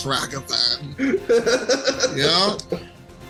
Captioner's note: laughs